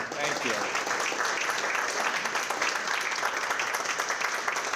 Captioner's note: clapping